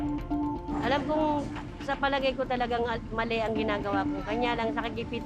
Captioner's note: speaks in foreign language